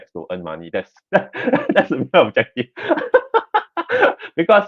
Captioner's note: laughs